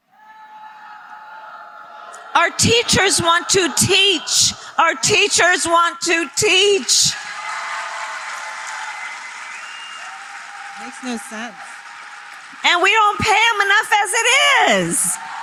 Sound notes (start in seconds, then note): 8.0 applause